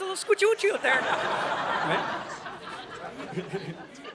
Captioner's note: audience laughing